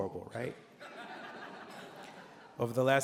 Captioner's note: laughter